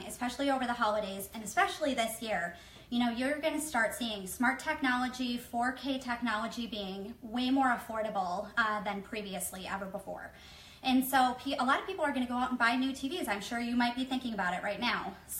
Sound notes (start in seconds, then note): none